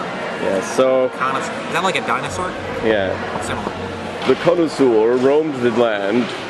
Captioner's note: narrator voice